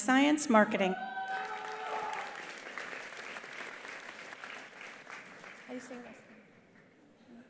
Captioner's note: attendees cheering; attendees applauding